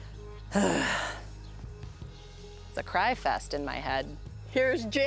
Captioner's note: sighs